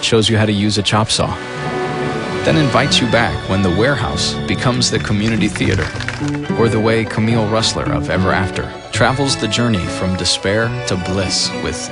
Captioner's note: applause